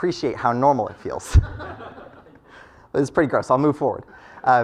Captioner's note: laugh